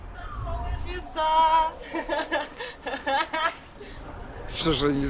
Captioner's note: laughter